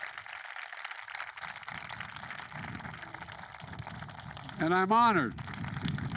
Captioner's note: applause